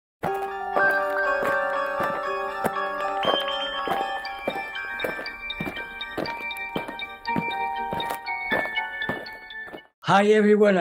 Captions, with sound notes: [eerie music] [aliens marching] Hi, everyone.